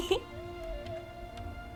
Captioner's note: laughs